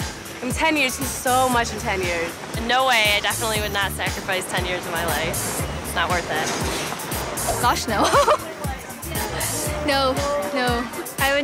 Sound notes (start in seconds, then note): 7.6 laughs